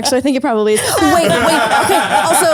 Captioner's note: laughter